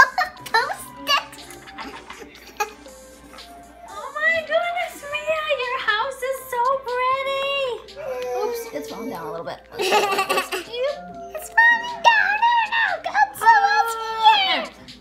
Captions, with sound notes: Oh! with all of those sticks?! *giggling* Oh my goodness Mia... your house is so pretty! oops, it's falling down a little lets fix that. *laughing* its falling down and aaah, Godzilla's here!